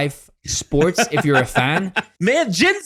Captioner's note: laughs